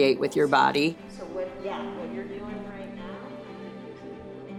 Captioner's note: speaking faintly